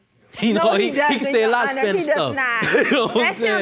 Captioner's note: laughs